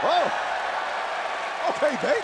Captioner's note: crowd cheering